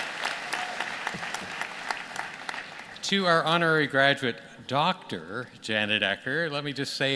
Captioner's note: applause